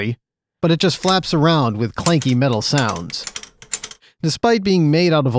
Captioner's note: clank clank clank